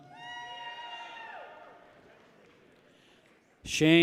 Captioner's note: people cheer